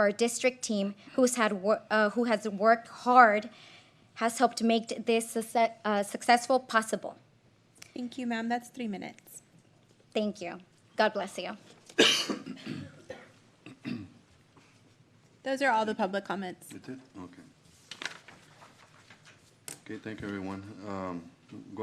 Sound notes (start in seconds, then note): 11.9 cough; 13.6 clears throat